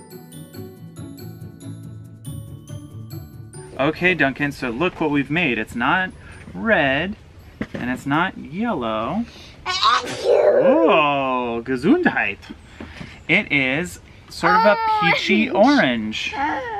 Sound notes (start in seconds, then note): 0.0 whimsical music; 9.8 sneezes